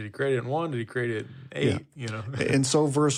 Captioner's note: chuckles